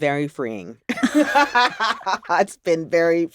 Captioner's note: laughter